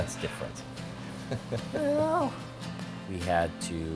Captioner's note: laugh